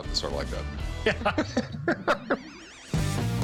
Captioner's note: laughter